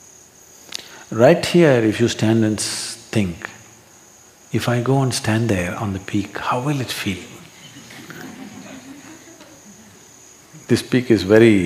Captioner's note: laughter; 笑聲